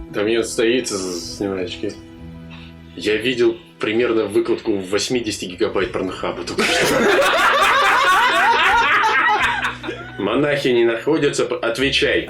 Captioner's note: the table laughs